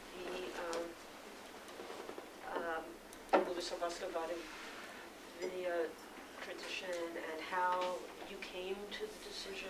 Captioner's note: non-english speech